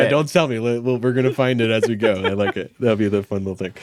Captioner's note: laughing